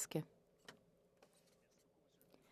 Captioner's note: speaking French